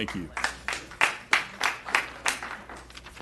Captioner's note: applause